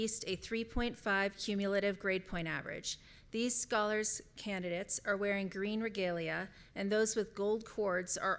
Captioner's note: none